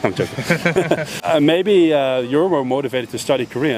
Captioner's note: both laugh